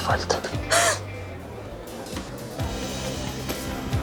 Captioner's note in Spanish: Sollozo